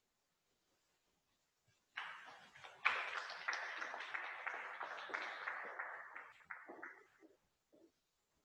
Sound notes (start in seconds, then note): 1.9 audience clapping